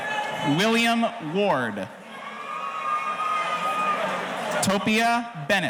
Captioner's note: audience cheering